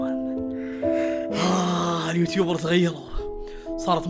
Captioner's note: melancholic music playing; sighs